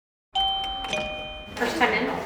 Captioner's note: shop door bell rings